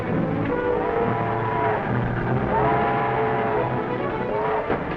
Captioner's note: train horn toots